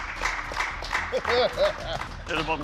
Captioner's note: laughs